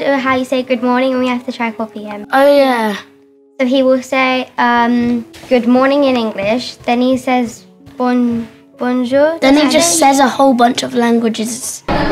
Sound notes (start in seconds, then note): 7.3 speaking in foreign language